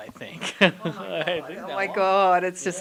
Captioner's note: chuckling